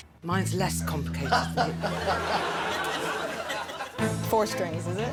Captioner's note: laughing